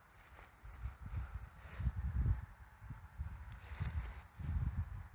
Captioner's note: wind noise